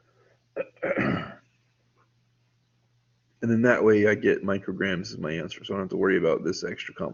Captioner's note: clears throat